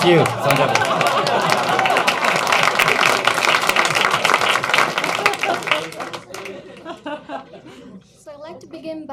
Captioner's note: applause